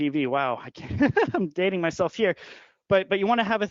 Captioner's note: laughing